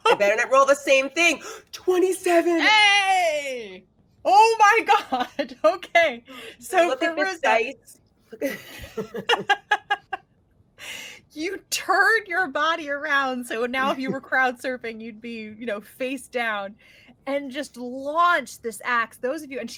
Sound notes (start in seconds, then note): 1.6 gasps; 5.1 chuckles; 8.3 laughing